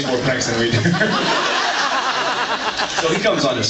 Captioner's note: laughs